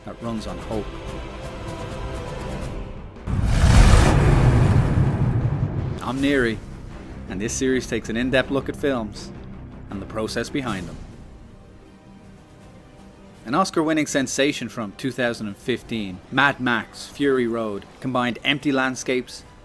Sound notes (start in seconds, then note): 3.3 engine revs